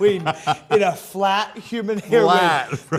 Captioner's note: laughs